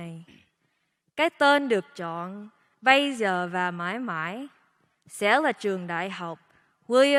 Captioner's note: speaking foreign language